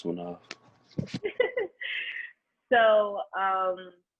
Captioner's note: laughing